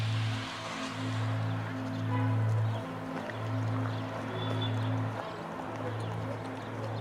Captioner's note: traffic droning; gentle music continues